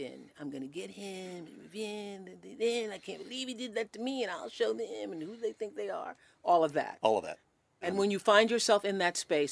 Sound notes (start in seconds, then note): 1.1 speaking gibberish